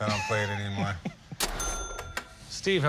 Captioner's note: laughs